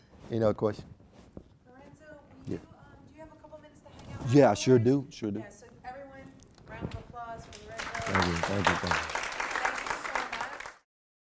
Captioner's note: clapping